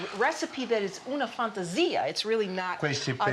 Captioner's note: speaking Italian